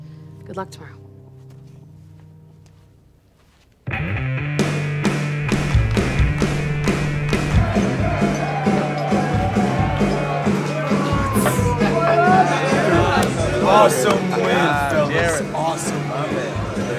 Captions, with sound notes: Good luck tomorrow. [rhythmic hard rock music] [group shouting and chattering] - Awesome win, fellas, awesome win!